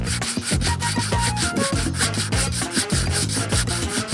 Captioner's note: paper sanding